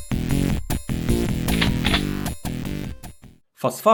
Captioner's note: shotgun load